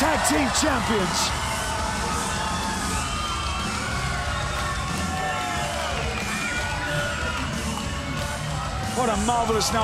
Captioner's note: crowd cheering